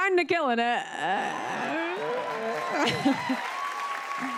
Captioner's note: cheers and applause